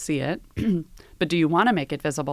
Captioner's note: cough